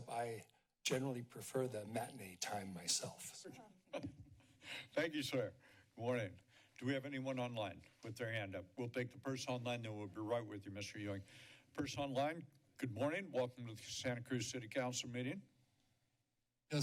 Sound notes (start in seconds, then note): 3.9 chuckles